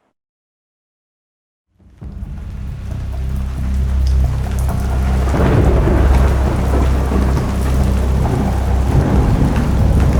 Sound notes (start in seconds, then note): 1.8 rain pattering; 1.8 thunder rumbling